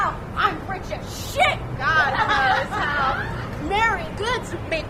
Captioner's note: laughter